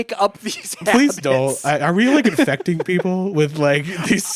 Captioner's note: laughing